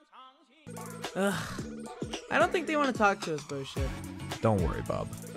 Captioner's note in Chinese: 嘆氣